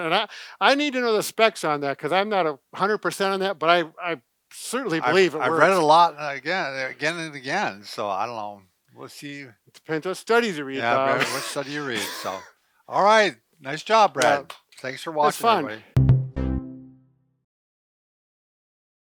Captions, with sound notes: - And I need to know the specs on that. Cause I'm not a hundred percent on that, but I certainly believe it works. - I read a lot and again and again. So I don't know. We'll see. - It depends the studies you read, Bob. - Yeah, what study you read, so. - All right. - Nice job, Brad. (hands clapping) Thanks for watching. - It's fun. (upbeat music)